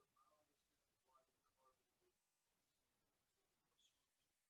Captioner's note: student speaks faintly